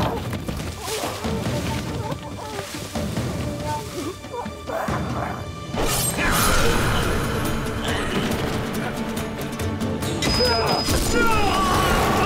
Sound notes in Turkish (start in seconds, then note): 2.8 İnleme sesi; 10.3 Bağırma sesi